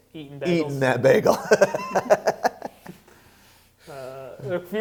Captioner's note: laughs